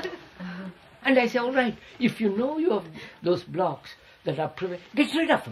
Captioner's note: laughter